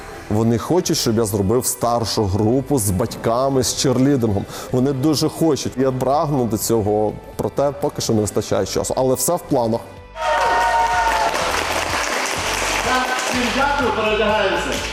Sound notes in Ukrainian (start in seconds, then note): 10.1 крики, оплески